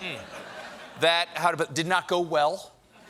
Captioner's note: laughter